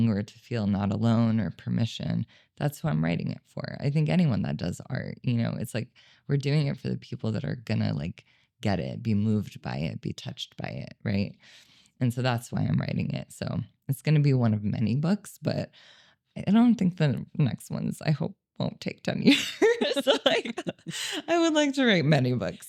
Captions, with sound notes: or to feel not alone or permission. That's who I'm writing it for. I think anyone that does art, you know, it's like we're doing it for the people that are gonna like get it, be moved by it, be touched by it, right? And so that's why I'm writing it. So it's gonna be one of many books, but I don't think the next ones I hope won't take time. (both laughing) I would like to write many books.